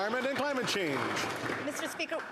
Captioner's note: some Applause